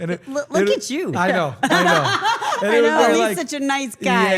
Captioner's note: laugh